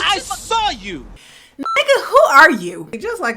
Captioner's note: beep